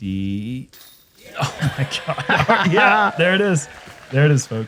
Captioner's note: laughs